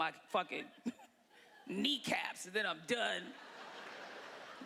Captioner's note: laughter